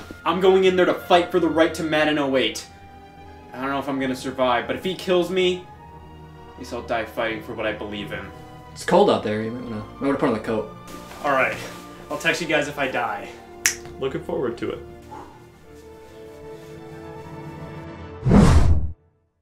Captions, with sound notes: I'm going in there to fight for the right to Madden 08. I don't know if I'm gonna survive, but if he kills me... At least I'll die fighting for what I believe in. It's cold out there, you might wanna... might wanna put on a coat. Alright, I'll text you guys if I die. *snap* Looking forward to it. *fwoosh*